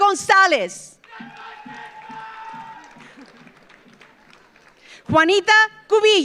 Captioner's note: audience applauds; audience cheers